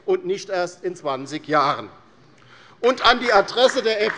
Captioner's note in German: Beifall bei der LINKEN